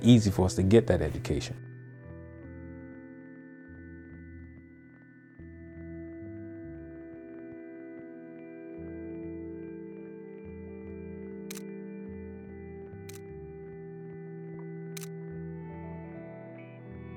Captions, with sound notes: easy for us to get that education. (slow tempo music) (camera clicking) (camera clicking) (camera clicking)